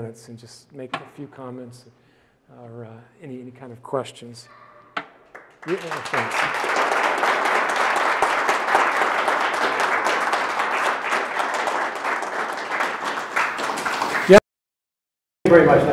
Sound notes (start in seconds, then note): 5.2 audience clapping